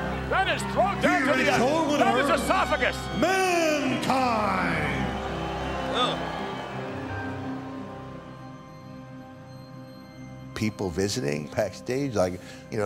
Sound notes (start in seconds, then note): 5.7 crowd boos